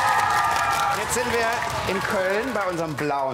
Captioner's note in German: Applaus